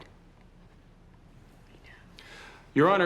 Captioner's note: whispering